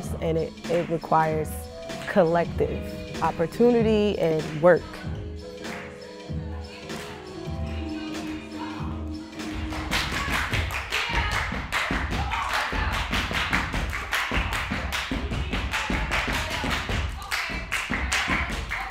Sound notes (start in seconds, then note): 5.7 hands clapping; 5.7 upbeat music; 10.3 hands clapping; 11.1 feet stomping; 12.7 hands clapping; 13.3 feet stomp; 13.3 hands clap